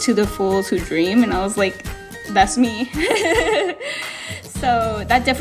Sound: laughs

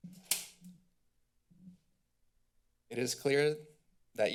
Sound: pause

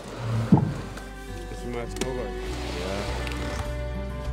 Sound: dink

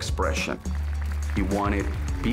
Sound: applause

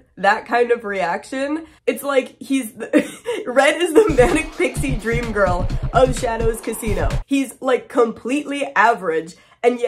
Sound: laughs; rock music

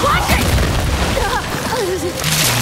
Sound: gunshots

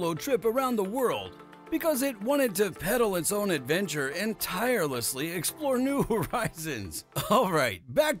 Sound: haha

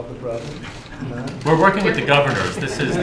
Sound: laughter

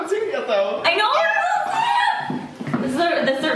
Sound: shrieking

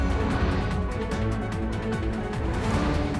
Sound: none

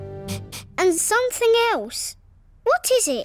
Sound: sniffs

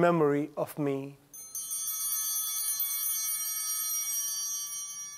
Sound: chimes ringing

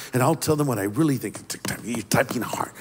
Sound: loud tapping

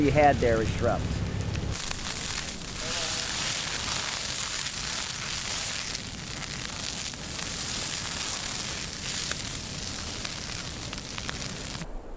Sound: fire crackling; apple crunching

